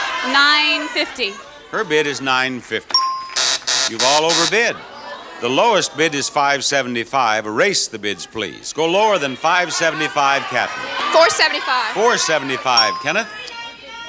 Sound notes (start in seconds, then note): 3.0 buzzer rings; 13.8 audience yells suggestions